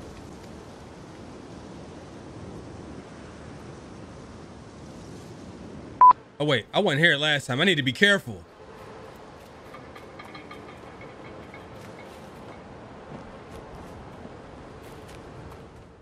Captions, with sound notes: (beep) Wait, I went here last time. I need to be careful. (metals clanging)